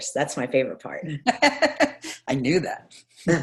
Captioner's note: laughs